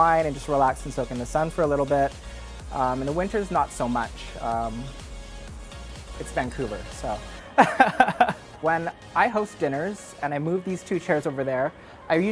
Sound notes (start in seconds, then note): 7.5 laughs